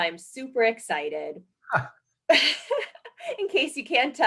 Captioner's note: laughing; chuckles